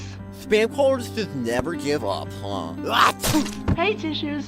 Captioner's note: sneezes